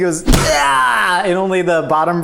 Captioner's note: exclaims loudly